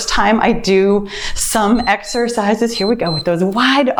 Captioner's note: timer beeps